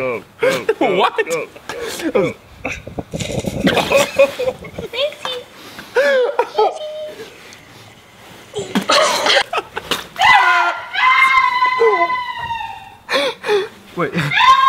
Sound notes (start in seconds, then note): 0.4 voiceover; 2.6 laughing; 5.3 high Pitched Voice; 5.9 laughing; 8.5 laughing; 10.2 screaming